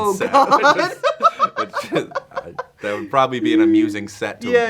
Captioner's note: laughs